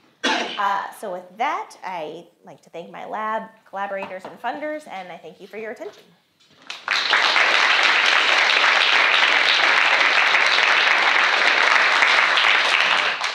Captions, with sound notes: So with that, I'd like to thank my lab, collaborators, and funders, and I thank you for your attention. (audience applauds)